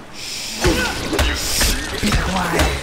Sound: thudding

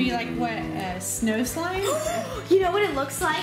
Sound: gasping

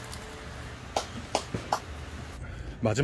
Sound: applaud

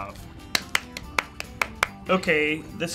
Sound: clapping

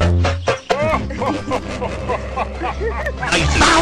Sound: laughing heartily

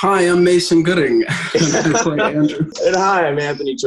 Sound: laughing

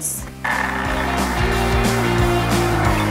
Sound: juicer whirring; upbeat music continues

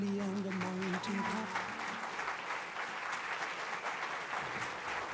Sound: applause

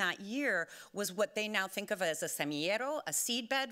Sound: speaking Spanish

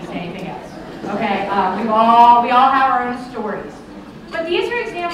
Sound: laughter

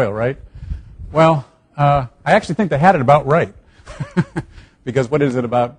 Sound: chuckles

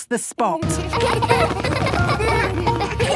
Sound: laughter

